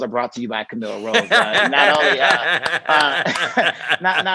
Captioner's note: Tigger laughing and clapping